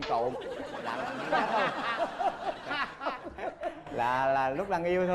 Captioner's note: laughing